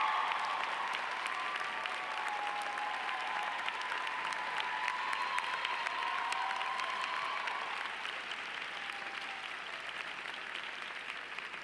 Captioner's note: applause